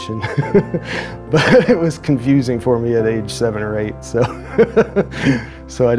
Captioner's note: chuckles; laughs